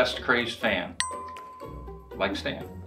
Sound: bell dings

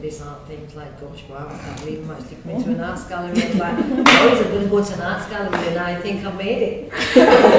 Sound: clap; laughter

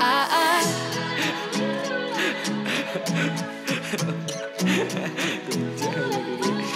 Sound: giggling

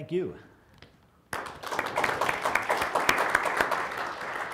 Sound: applause

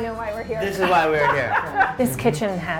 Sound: laughter

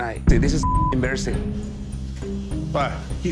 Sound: beep

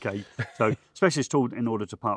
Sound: laughs

